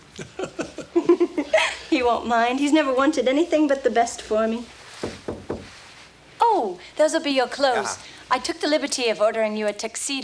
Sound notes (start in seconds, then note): 0.2 John chuckles; 0.2 Jilly giggles; 5.0 knocks on door